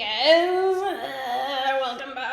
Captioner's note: groans